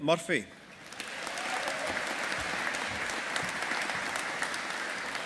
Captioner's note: audience applauding